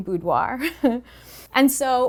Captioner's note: giggling